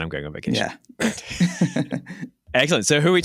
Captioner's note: chuckles